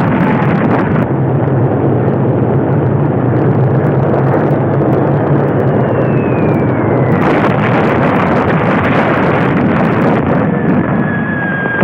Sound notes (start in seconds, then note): 5.6 bomb whistling; 7.3 explosions roaring